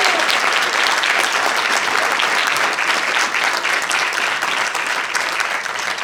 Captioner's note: applause